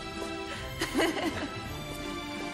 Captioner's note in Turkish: Gülme sesi